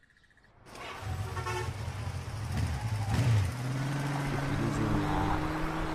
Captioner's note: traffic noise